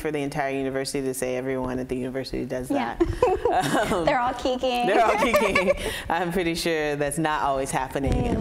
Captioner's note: laughter